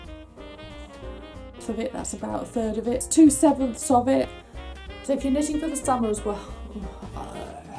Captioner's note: blows raspberry